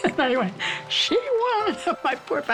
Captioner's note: laughing; laughs